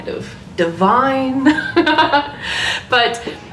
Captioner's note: laughs